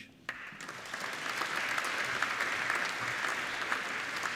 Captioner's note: applauding